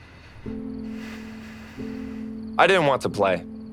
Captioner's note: sighs